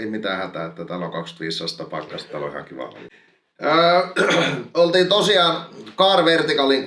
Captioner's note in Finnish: rykäisee